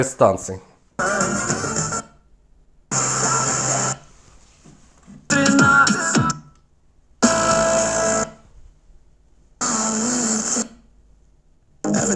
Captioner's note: radio stations sound